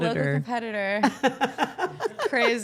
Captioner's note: laughing